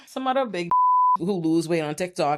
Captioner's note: beep